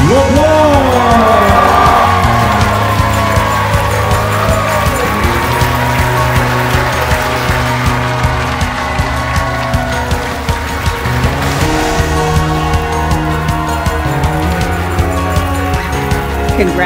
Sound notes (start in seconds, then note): 1.3 cheering; 1.3 upbeat music playing